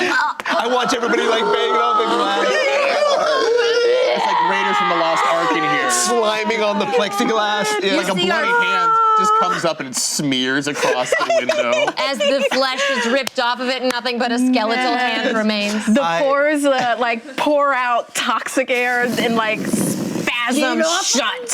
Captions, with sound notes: (group gasping) I watch everybody banging on the glass. (gasping and yelling) It's like Raider's from the Lost Ark in here. Sliming on the plexiglass. Like a bloudy hand. You see our-- Just comes up and smears across the window. As the flesh is ripped off of it, nothing but a skeletal hand remains. The pores pore out toxic air and spasm shut.